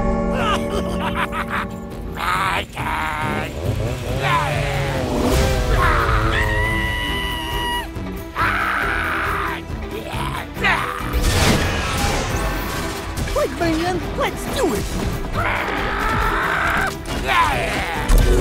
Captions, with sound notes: [Evil Noises] My turn! [Screaming] [Maniacal Scream] Like hey man, let’s do it! [Screaming]